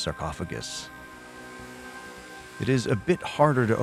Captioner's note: angle grinder buzzing